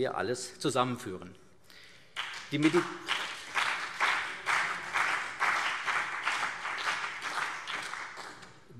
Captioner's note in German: Beifall CDU und BÜNDNIS 90/DIE GRÜNEN